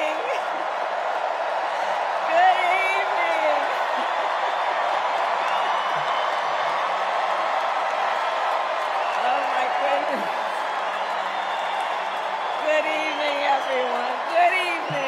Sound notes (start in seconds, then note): 3.7 cheers and applause